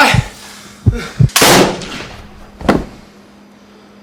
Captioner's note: gun shot; body falls